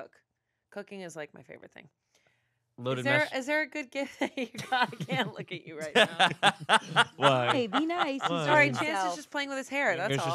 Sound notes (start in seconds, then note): 5.8 laughs